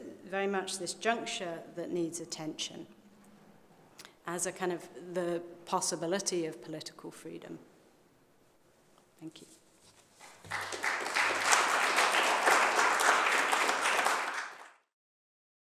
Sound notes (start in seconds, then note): 10.2 applause